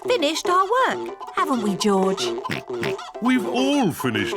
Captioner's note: oinks